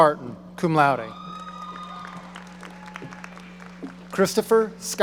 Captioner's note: audience cheering